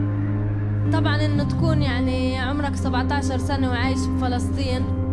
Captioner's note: speaking foreign language